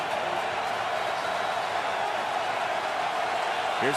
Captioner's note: cheering